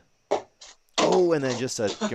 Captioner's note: dart ticks